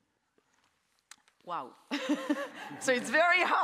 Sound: laughs

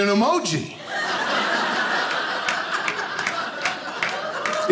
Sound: audience laughing

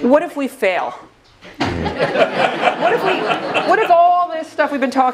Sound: laugh

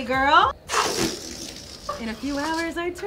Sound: air rushes out of balloon

